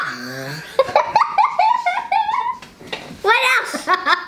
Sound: laughter

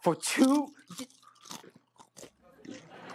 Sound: ELVIS munches loudly on his Hula Hoops

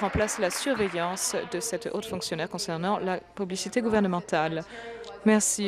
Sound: applause

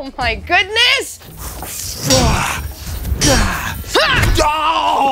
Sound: combat grunts

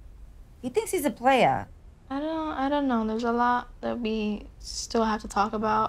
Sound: none

